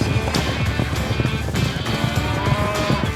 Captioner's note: steer moos